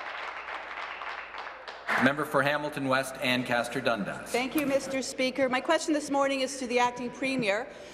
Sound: applause

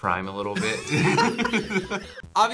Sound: both laugh

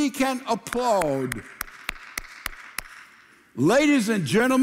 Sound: applauding

